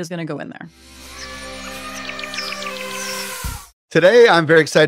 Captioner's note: birds chirping; elephant trumpeting